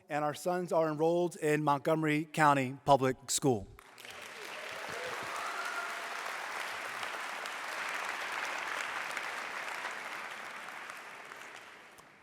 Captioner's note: applause